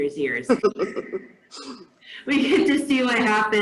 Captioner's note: laughs